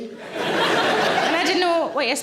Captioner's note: audience laughing